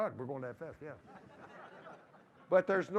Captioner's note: laughter